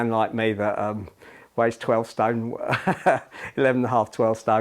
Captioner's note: laughter